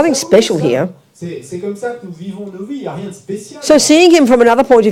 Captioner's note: French